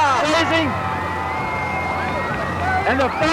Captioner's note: cheers